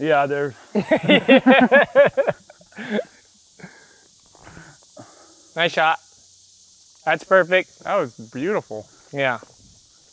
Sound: laughter

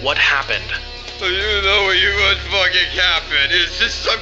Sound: considerably slurred

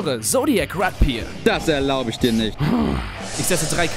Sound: grumble

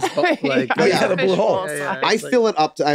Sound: Megan laughs

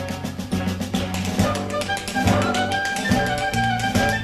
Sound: taps

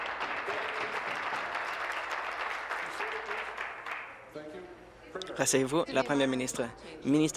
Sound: applause

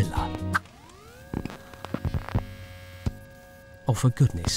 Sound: whirring sound

